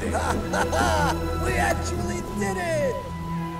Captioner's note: paco laughs